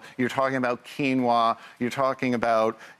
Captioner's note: none